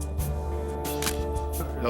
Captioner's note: camera shutter click